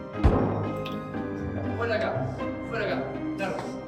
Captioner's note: inspector yells from afar